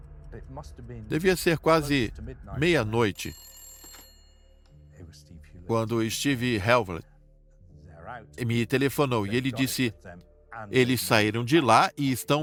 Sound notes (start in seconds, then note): 2.6 phone rings